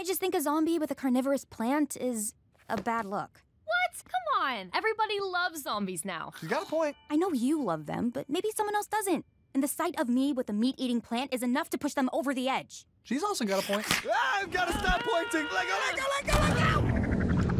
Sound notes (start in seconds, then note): 13.7 snapping